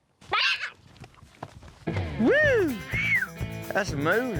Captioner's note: dancing footsteps